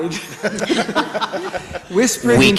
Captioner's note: everybody laughs